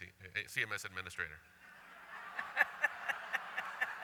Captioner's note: laughter